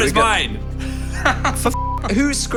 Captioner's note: laughing; beep